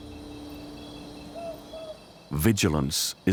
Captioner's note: owl hoots